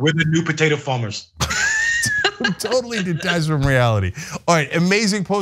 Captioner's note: laugh